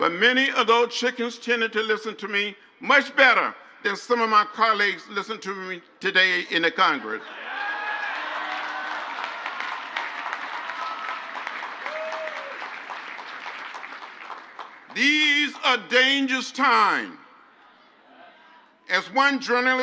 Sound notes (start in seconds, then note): 7.2 crowd cheers; 10.9 crowd applauds